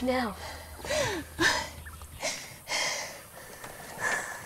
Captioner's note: Crying